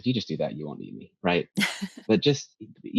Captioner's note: laughs